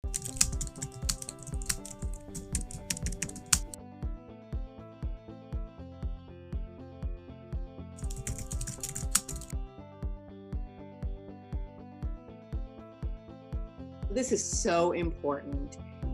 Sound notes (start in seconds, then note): 0.0 keyboard keys clicking; 0.0 upbeat music